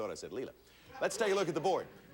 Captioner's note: audience laughing